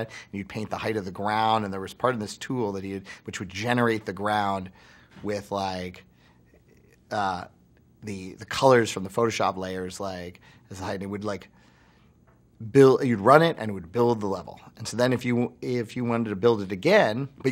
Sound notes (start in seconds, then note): none